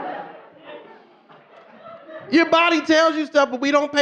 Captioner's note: audience laughing